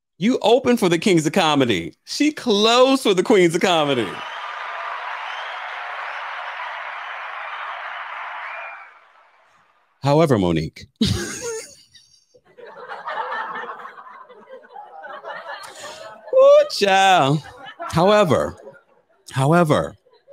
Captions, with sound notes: you opened for the Kings of Comedy. She closed for the Queens of Comedy. (audience cheering) However, Mo'Nique. (laughs) (people laughing) However, however,